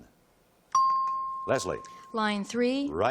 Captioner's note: ping